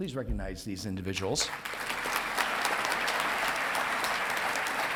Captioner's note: audience clapping